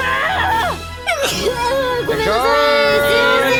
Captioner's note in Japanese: くしゃみ